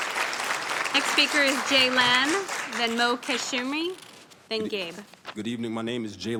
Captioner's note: applause